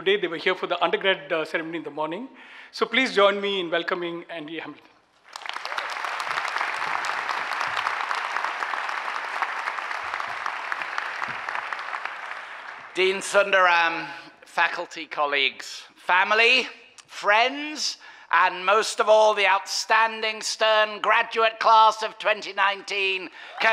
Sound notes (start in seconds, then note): 5.2 audience clapping